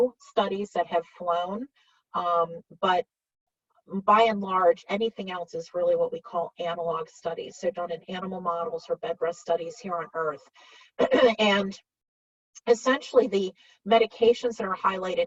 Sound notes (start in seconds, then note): 11.0 clears throat